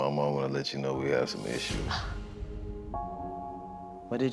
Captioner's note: gasps